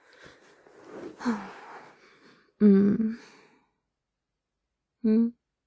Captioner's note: snuggles and sighs